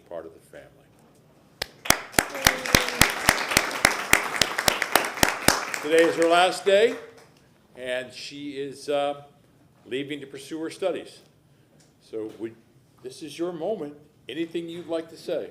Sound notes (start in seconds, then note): 4.9 applause